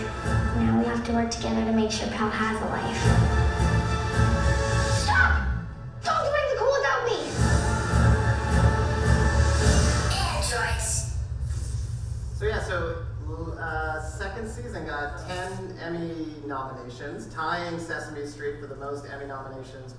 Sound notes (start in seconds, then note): 5.2 voiceover; 8.9 dramatic music; 10.4 voiceover